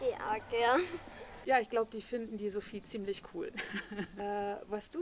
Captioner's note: laughs; laughs